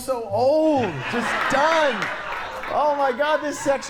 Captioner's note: audience laughs